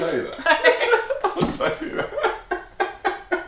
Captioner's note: laughing